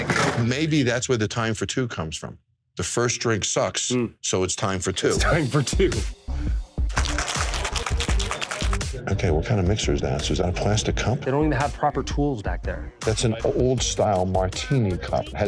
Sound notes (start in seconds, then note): 7.0 shaking